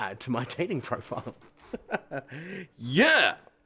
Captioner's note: laughs